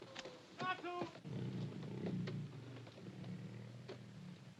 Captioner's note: tiger growls softly